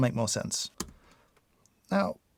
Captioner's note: keyboard clicking